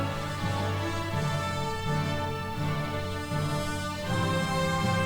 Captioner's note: none